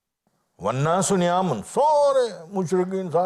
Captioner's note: Arabic